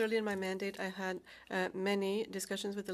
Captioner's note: speaking French